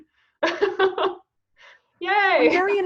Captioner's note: laughing